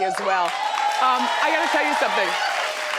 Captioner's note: crowd claps